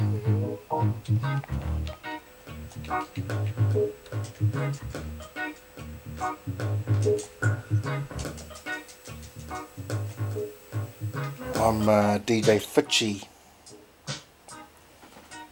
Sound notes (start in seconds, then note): 0.2 console buttons click; 2.3 laidback reggae music; 4.4 console buttons click